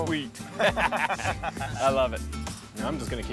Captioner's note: laughter